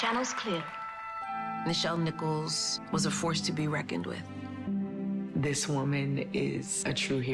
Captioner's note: applause